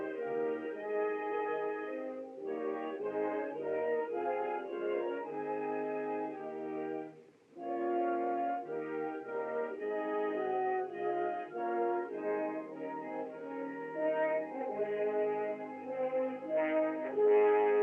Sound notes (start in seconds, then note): none